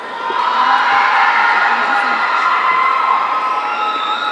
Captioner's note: audience cheering